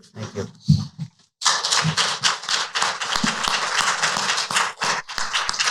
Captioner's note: applause